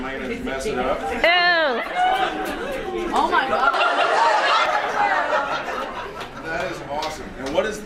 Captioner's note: various audience reactions